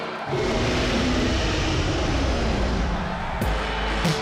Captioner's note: monstrous roar